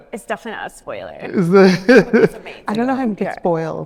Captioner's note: chuckle